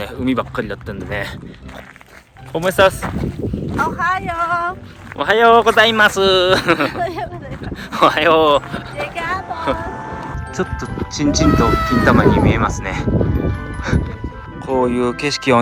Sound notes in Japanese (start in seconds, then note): 6.2 笑い